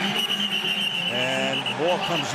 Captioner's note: whistle blows